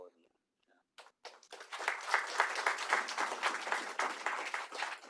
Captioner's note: applause